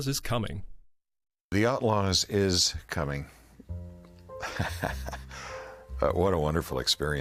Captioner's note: laughing